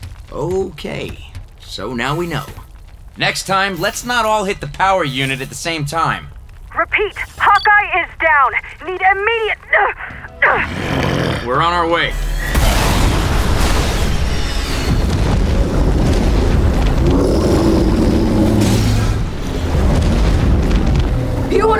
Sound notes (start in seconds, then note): 7.2 over comms; 9.9 groans; 10.4 growls; 15.4 roars